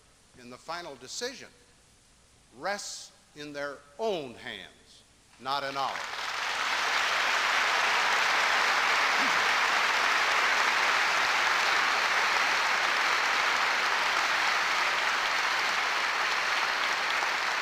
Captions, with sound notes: in the final decision, rests in their own hands, not in ours. [applause] [applause continues]